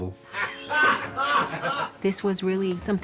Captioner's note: ayrs laughs